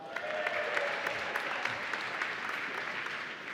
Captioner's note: applause